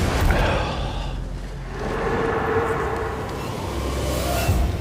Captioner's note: howling